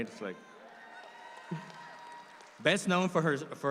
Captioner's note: audience applauds